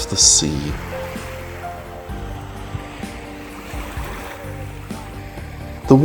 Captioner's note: sound of waves